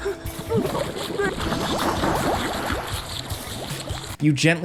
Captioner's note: man whimpering; man choking; water burbling